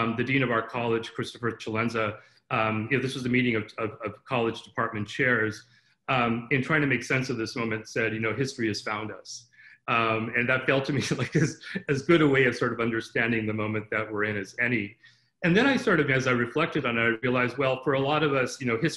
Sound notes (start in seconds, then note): 11.0 laughter